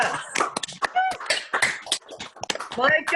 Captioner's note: clapping